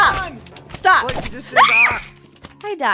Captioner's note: screams